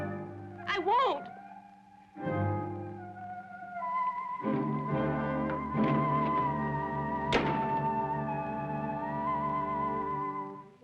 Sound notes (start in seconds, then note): 2.9 ominous music; 7.7 door thuds